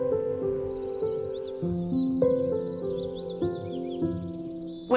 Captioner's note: ocean whooshing; birds chirping